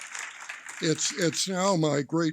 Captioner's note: applause